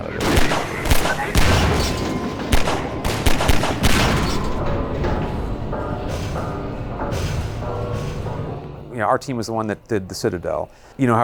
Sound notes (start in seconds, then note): 0.1 loud gunshots; 4.6 metal clanging